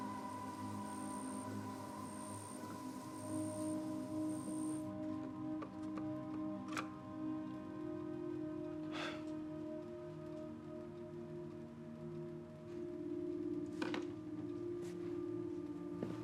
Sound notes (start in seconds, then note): 0.0 insects buzz; 8.9 sighs